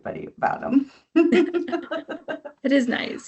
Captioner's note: both chuckling